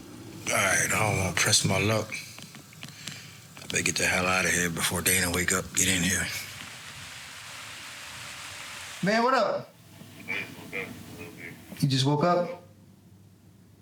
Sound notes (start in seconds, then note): 6.0 water splashing